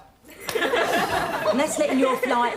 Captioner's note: audience laughing